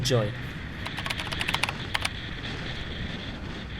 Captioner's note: typing